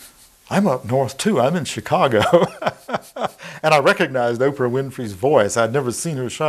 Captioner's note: laughing